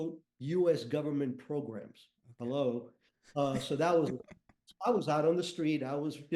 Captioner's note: chuckles